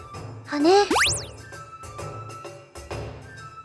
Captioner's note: upward brushstroke